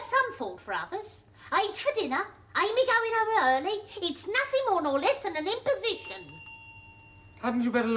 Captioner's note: the door bell rings again